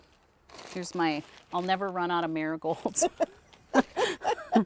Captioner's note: both laughs loudly